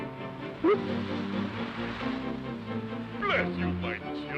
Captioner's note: goldfish plopping